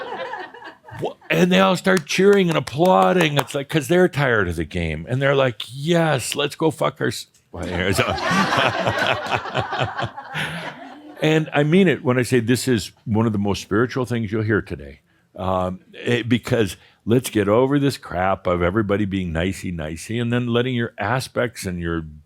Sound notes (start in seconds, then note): 0.0 more laughter; 10.2 laughter